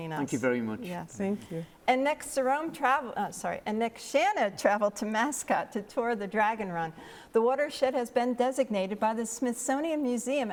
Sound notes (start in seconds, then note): none